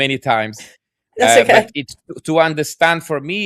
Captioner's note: laughs